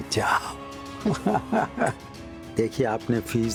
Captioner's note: chuckling